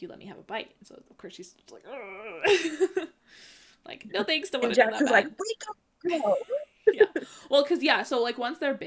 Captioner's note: extreme hesitation